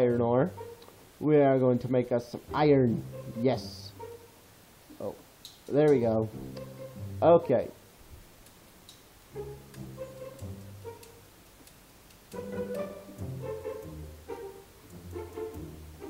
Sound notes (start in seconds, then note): 6.7 awkward Silence